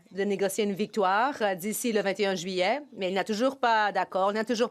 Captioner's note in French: voix de l'interprète